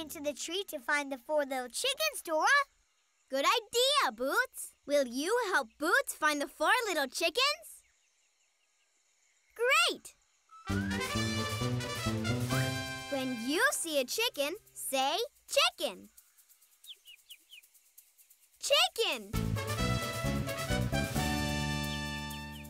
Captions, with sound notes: to find the four little chickens, Dora! Good idea, Boots! Will you help Boot find the four little chickens? Great! [triumphant music] When you see a chicken, say, "Chicken!" [chirping] Chicken! [triumphant music]